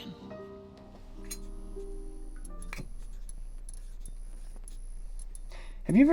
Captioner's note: zippo lighter flicks - lights